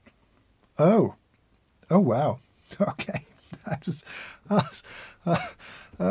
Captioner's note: laughs